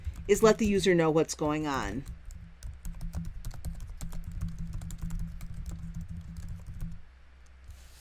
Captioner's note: typing